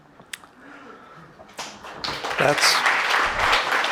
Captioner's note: audience applauding